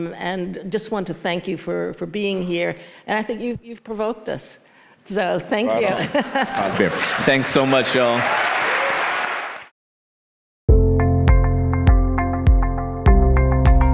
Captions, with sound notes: and just want to thank you for being here. And I think you've provoked us, so thank you. (laughs) - Thanks so much y'all. (audience applauds) (ambient music)